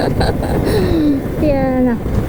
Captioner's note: gasps